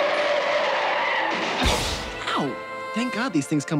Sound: brakes squealing; crashing

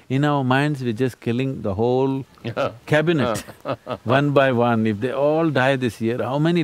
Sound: laughs

